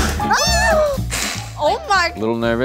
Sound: yelp; hisses

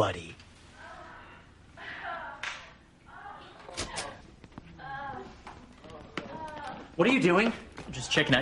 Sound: woman and man moaning, spanking

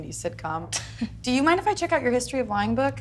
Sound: laughs

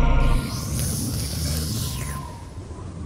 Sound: slurp

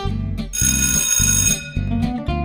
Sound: school bell rings

